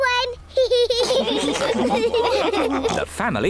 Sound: all laugh

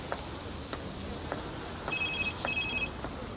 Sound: phone ringing

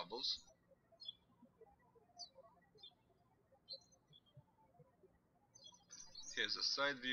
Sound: birds chirping

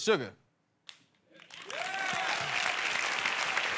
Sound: applause

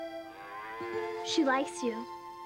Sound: calf mooing

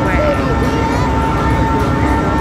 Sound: crane sounds and background chatter

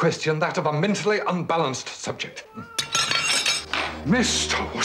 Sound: miaowing

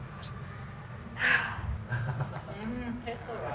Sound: sighs heavily

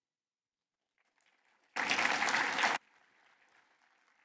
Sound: applause

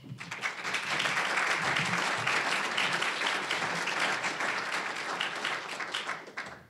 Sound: applause

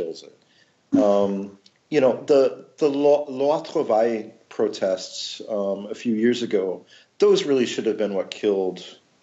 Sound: French

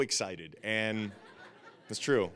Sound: audience laughing

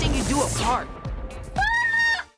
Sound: yells

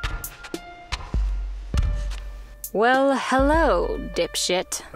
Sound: stomping feet

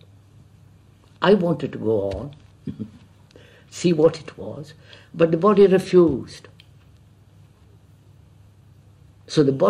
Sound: laughs

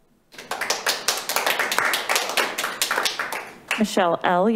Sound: members clapping

